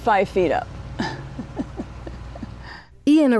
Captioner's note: chuckling